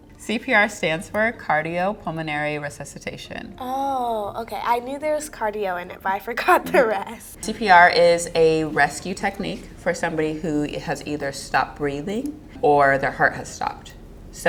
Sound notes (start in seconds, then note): 5.5 laughs